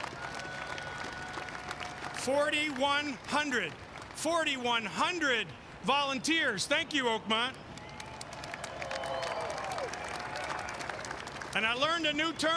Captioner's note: applause